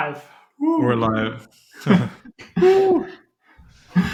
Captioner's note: laughing